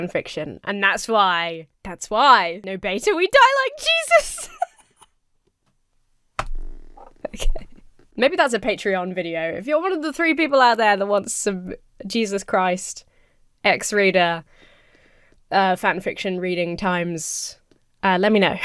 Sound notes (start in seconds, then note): 3.9 laughs